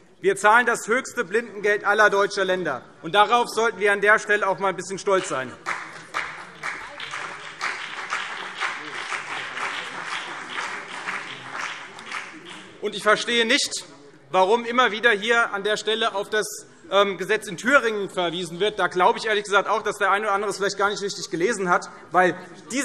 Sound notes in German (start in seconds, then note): 5.5 Beifall CDU und BÜNDNIS 90/DIE GRÜNEN